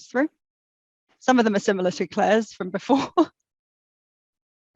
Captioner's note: laughs